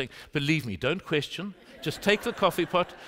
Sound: laughter

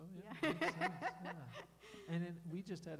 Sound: laughing

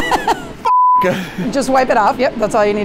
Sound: laughing; beep

